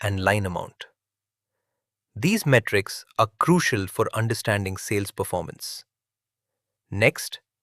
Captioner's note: thoughtful